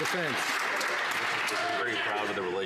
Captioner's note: some Applause